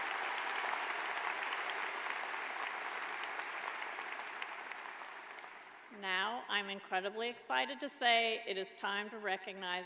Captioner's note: applause